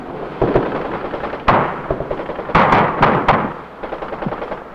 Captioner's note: tank engine roaring